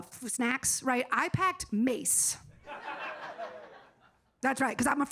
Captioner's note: audience laughing